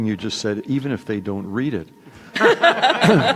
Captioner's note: laughter